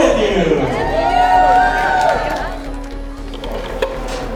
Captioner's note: cheering